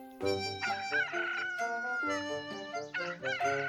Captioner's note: rooster